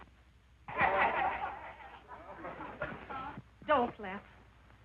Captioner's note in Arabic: الرجال يضحكون